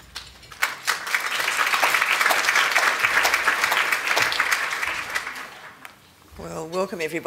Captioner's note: applause